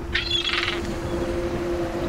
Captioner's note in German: Möwenkreischen